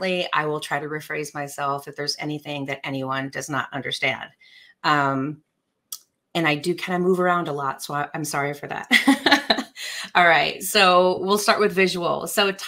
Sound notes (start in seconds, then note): 9.0 laughs